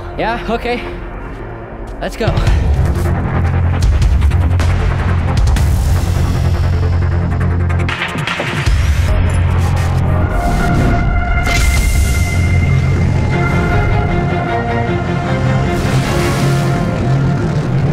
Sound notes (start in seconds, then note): 2.9 tense music; 9.5 jets roaring